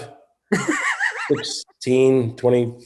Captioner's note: David wheezes